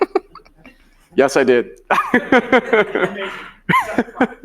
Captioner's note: laughing